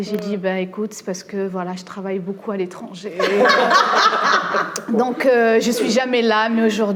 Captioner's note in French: rires